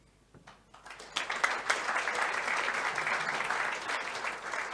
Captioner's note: applause